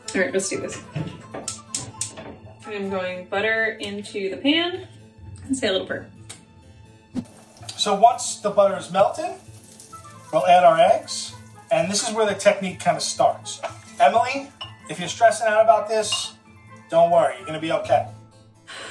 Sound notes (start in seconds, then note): 1.4 suspenseful music; 1.5 burner clicking